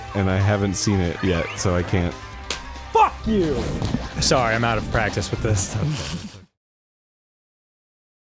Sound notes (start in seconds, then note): 2.4 clap noise